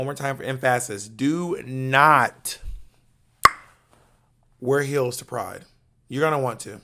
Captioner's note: tongue clicks